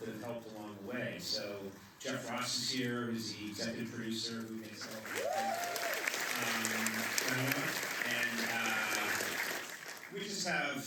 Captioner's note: applause